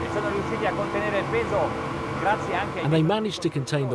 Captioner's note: speaking in foreign language